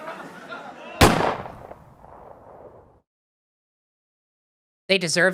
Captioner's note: echoing gunshot, sitcom sounds stop